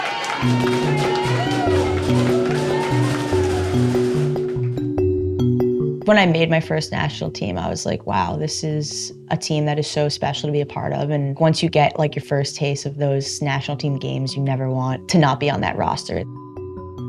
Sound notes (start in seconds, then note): 1.9 cheering